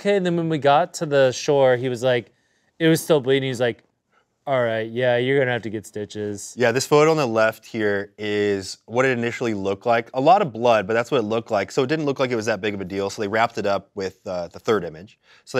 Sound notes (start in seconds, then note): none